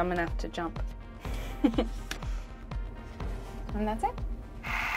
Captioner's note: chuckles